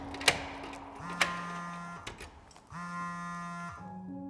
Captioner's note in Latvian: telefona vibrozvans